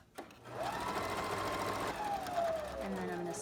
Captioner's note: sewing machine hums